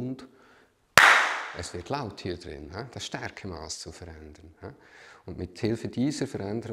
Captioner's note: claps